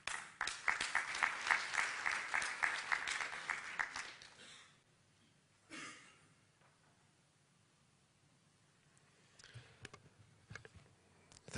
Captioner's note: applause